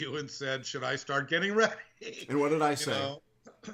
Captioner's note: laughing